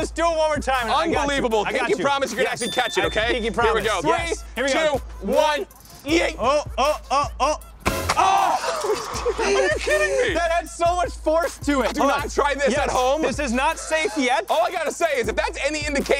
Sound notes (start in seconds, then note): 5.6 guys yelling; 7.7 dramatic music beat